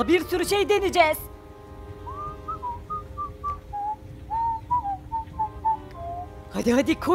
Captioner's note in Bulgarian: подсвиркване